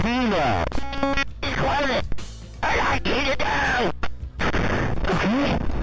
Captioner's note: glitching noise